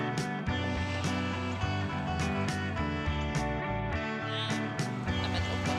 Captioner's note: slow upbeat music; car engine roars